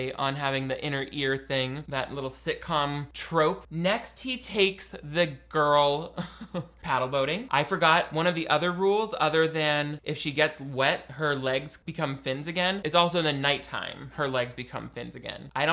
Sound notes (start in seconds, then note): 5.6 laughs